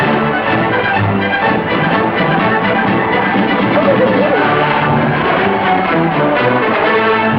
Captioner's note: cheers